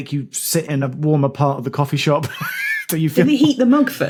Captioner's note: wheezes